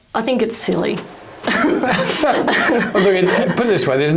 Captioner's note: panellists chuckle